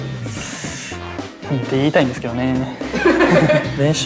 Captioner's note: they burst into laughter